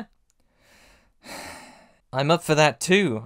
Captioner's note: sigh